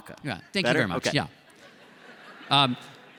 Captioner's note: laughter